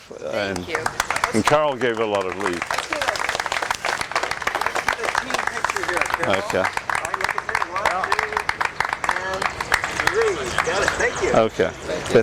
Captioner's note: applause